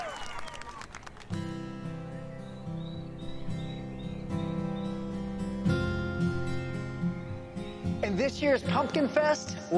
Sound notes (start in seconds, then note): 1.4 gentle music; 1.6 birds chirping